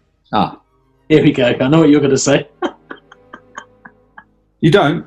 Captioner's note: laughing